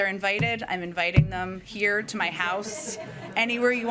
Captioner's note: laughter